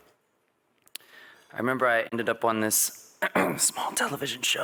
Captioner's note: clears throat